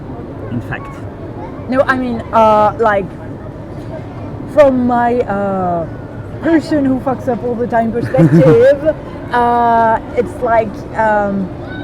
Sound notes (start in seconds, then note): 8.0 Gavroche laughs